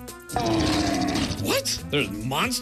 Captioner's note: growling